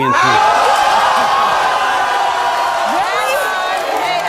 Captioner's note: audience exclaims in disbelief